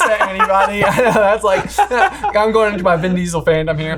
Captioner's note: cackles